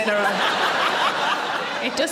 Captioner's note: audience laughing